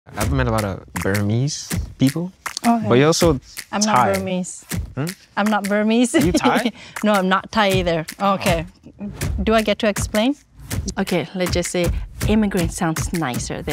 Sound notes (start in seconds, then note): 6.0 laughing